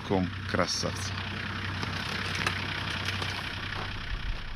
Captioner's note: engine humming